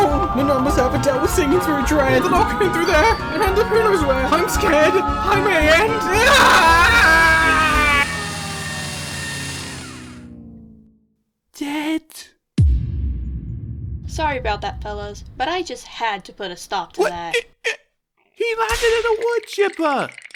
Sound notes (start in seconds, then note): 6.0 screams, wood chipper activates